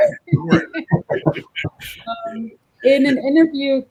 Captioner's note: laughter